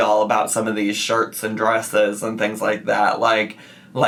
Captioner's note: none